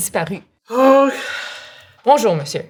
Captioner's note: Lys sighs